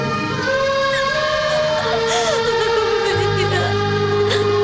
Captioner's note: Crying